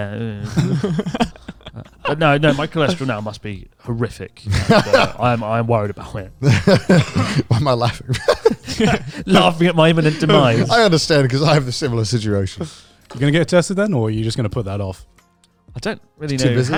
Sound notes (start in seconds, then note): 0.2 laughs; 4.5 laughs; 6.4 chuckling; 8.7 laughs